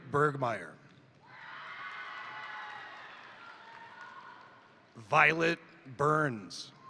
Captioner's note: crowd cheering; crowd applauding